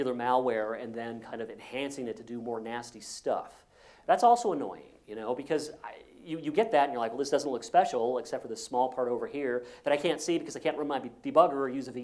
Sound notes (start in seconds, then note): none